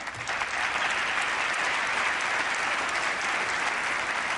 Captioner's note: applause